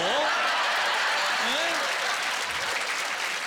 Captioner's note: laughter and applause